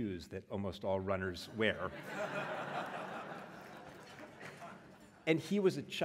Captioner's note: laugh